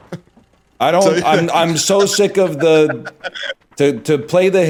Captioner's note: cracks up